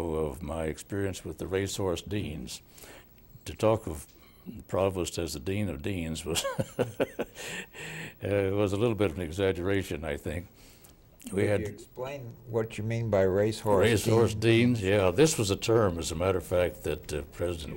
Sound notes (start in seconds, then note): 6.4 laughing